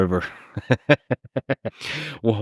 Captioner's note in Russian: Лекс смеётся